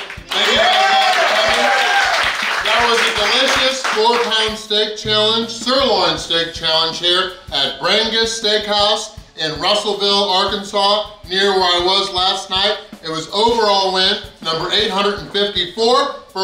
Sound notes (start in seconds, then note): 0.0 cheering & Clapping